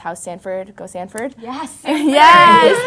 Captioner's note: laughs